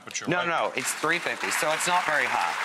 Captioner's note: applause